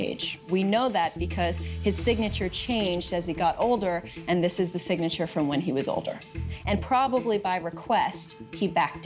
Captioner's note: none